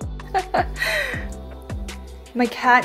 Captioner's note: lady laughing